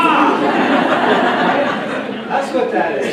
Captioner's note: laughter